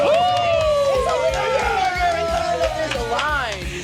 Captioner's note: all cheering